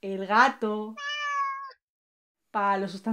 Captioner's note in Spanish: maullido